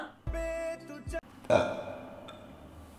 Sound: burped

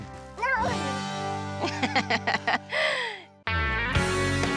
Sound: laughing

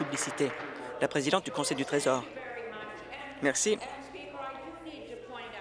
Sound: applause

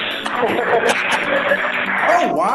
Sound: laughing and applause

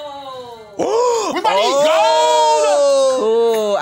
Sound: gasp

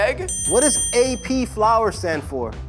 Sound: bell rings

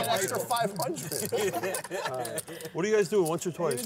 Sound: laughter

